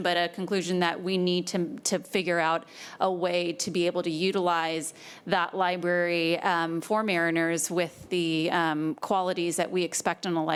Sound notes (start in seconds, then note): none